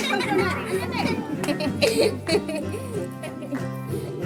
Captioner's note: laughter